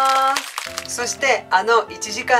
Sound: applause

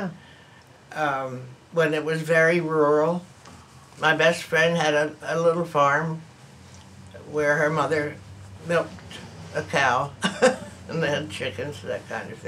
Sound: laughs

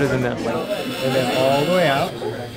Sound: drilling sound

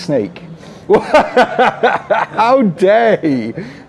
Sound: laughs

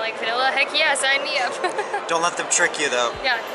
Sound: laughing

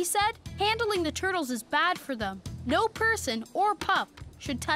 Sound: none

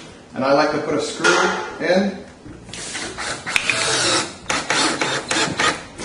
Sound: screwdriver drilling

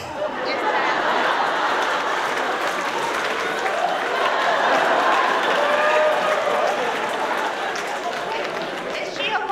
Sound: laughter

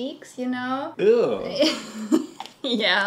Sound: laughing

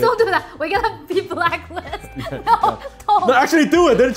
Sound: laughs

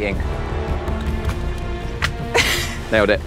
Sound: paper hits the floor; Jessie laughs

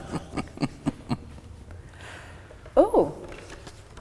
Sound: chuckling

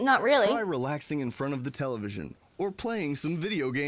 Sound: male Voice

